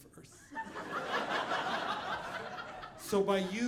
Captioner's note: audience laughing